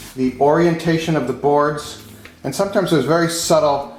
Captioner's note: none